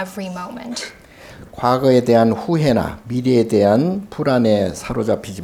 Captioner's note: speaking Korean